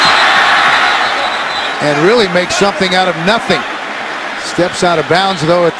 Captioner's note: whistle